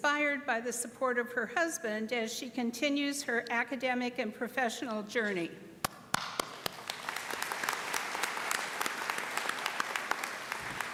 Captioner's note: applause